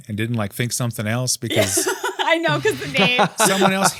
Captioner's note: laughs